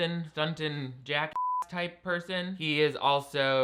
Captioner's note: beep